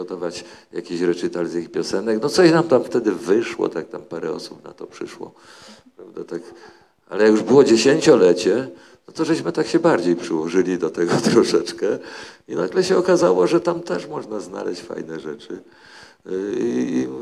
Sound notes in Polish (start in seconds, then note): 11.0 śmiech